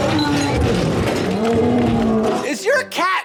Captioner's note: crashing sounds